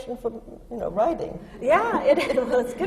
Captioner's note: laughs